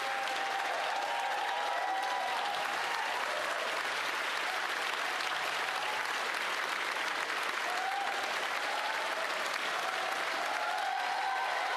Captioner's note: applause